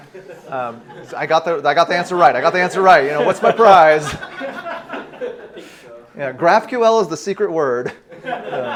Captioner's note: laughter